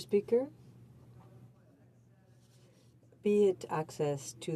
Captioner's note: speaking in french